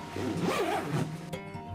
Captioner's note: zipper closing bag; bag rattling